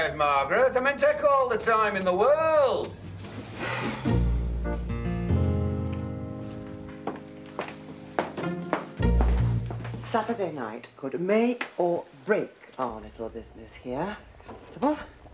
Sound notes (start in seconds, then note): 3.5 sighs; 7.5 footsteps approaching